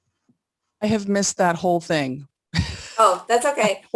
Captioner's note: laughs